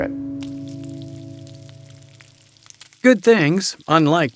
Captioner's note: burger sizzles; voiceover